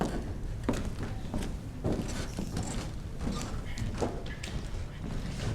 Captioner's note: chattering faintly